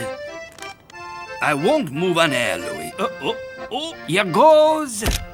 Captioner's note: groans; camera flash clicking